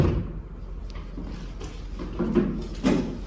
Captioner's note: thumping